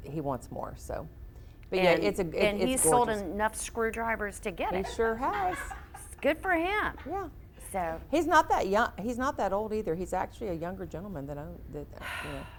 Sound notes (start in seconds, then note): 4.8 audience laughs